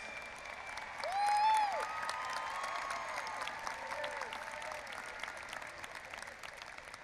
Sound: audience applauding and cheering

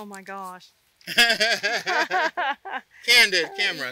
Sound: laugh

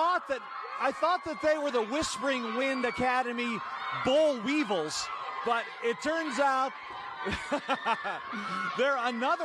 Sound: laughing

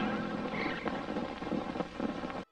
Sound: old film static

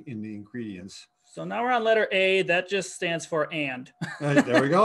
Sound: laughs

